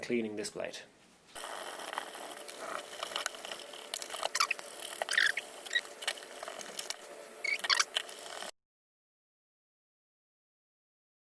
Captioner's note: sped up cleaning sounds